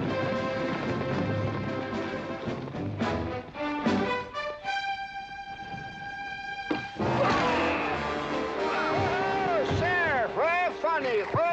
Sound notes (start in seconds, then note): 6.7 whack; 6.8 tense music